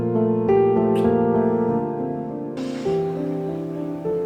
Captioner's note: lips smacking